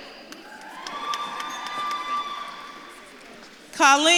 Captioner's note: audience claps and cheers